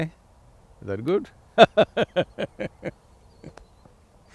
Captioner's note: laughs